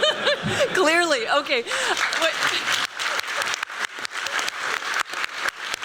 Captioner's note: laughter; applause